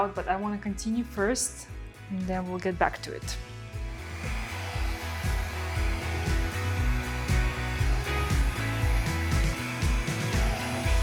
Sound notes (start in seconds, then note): 3.7 pleasant music; 3.8 machine whirring